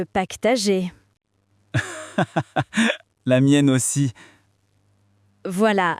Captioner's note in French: rire